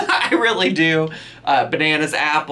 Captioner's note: laughs